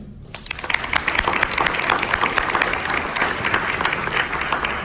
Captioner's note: audience applause